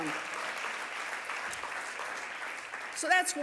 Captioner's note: audience applauding